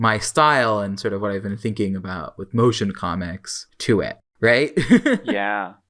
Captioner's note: laughs